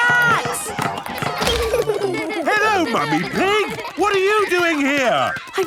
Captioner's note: laughter